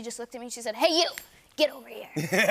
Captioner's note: snaps fingers; laughter